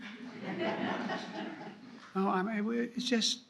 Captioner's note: laughter